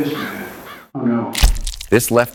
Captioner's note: concussive splat